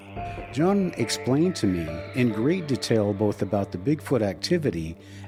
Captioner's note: none